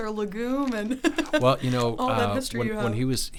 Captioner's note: giggles